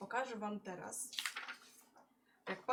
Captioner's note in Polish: szelest kartki